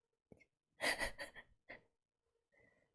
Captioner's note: chuckles